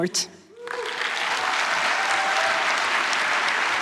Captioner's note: applause